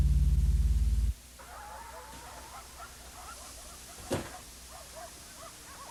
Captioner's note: dogs barking and yelping